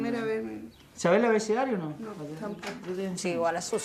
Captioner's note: speaking Spanish